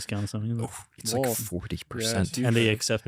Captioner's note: laughs